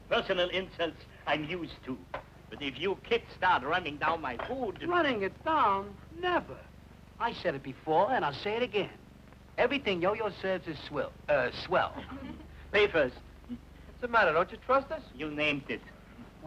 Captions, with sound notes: - Personal insults I'm used to, but if you kids start running down my food... - Running it down, never. I said it before and I'll say it again, everything Yo-Yo serves is swill, eh, swell. (ladies chuckling) - Pay first. - What's the matter, don't you trust us? - You named it.